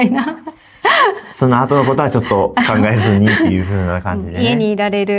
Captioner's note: laughs